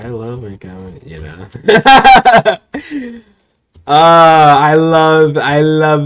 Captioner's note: laughter